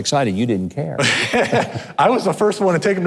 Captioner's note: laughing